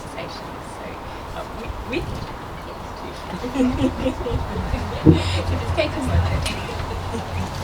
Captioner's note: laughter